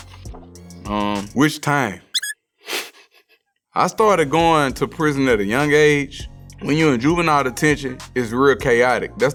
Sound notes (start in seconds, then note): 2.1 squeak; 3.1 snorts